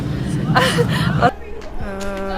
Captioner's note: nervous laughter